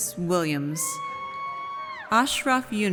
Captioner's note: audience cheers